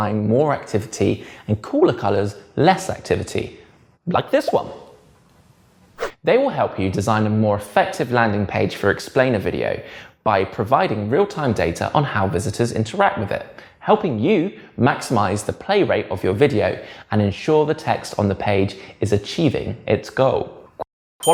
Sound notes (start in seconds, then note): 4.4 bubble pops; 5.7 page whips; 21.1 bell dings